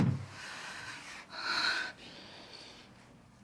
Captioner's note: deep breath